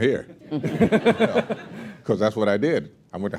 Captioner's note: laughter